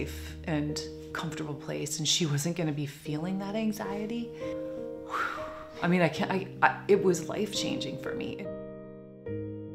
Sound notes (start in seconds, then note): 5.0 deep breath of relief